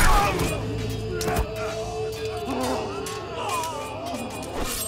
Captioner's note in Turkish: Gerilim müziği; Kılıç sesleri